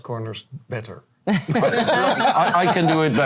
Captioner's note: laughter